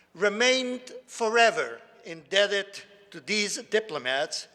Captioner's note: none